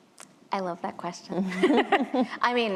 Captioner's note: chuckling